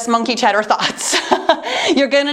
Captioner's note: laughs